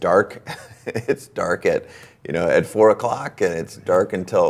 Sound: laughs

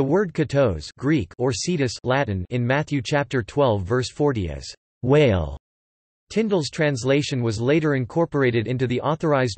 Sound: Latin

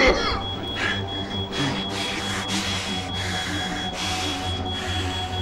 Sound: Tim coughing; Dave puffing

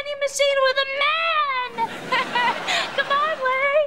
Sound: laughing

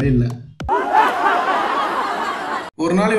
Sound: crowd Laughs

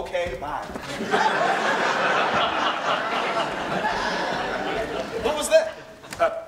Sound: audience laughs

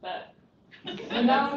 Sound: laughter

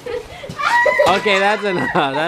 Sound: screaming

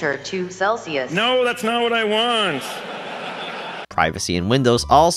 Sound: audience laughs

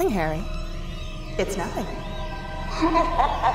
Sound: eerie music; laughs

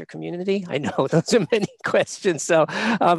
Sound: laughing

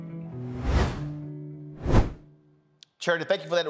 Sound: whooshes

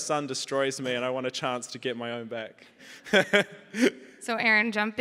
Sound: chuckles

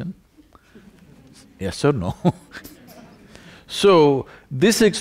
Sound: laughs

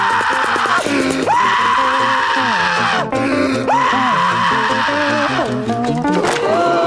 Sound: screaming; gasping, laughing

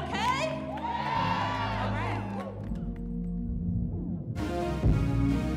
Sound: crowd cheering

